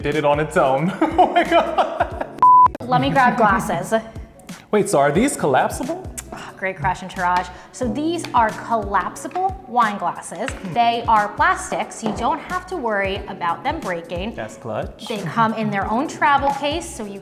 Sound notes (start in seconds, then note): 1.0 laughing